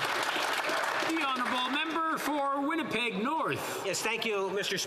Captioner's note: some Applause